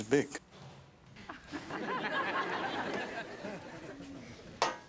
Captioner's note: audience laughs